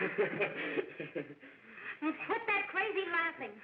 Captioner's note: sobbing and laughing